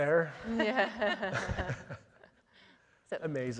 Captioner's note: panel laughing